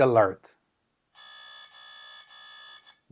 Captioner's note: alarm wailing